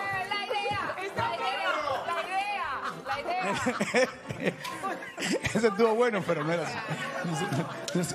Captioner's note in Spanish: risas